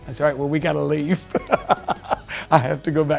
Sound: laughs

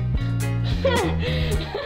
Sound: laughter

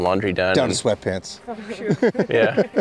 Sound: laughs

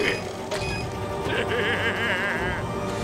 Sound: laughing

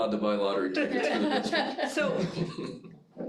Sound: all laugh

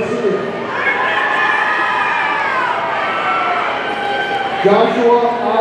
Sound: audience cheering

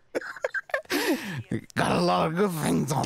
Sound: laughs

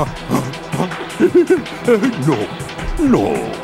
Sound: giggling

